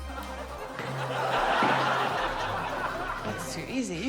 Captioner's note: laughter